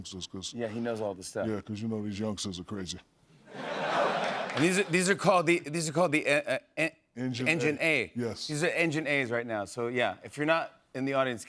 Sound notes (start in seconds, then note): 3.4 laughter